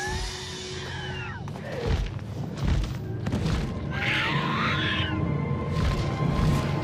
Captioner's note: creatures screeching; wings fluttering